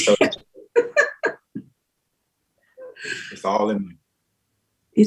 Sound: laughs

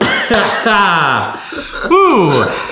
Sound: chuckles

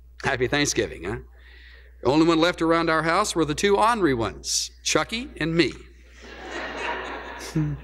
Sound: laughter

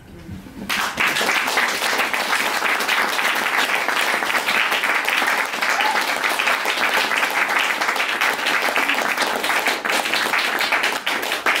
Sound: applause

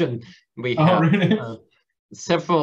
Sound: laughs

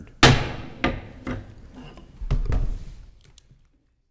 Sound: gavel banging

